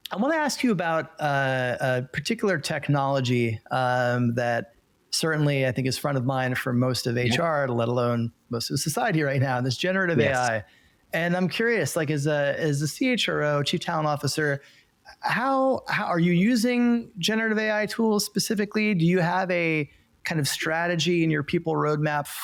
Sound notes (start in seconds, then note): 10.2 chuckles